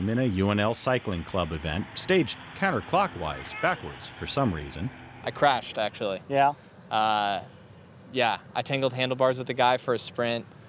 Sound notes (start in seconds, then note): none